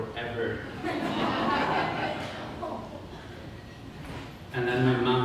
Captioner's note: audience laughter